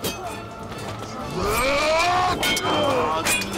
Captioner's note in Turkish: Bağırıyor